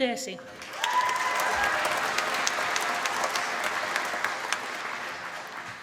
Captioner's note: applause